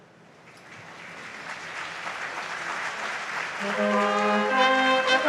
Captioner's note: audience applauds; bright marching band music